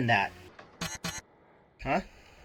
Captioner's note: harsh beeping